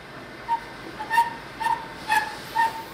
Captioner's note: quiet squeak